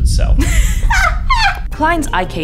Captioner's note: laughs